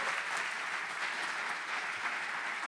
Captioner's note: audience applauds